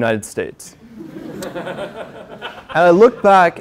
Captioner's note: laugh